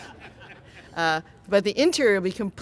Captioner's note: laughing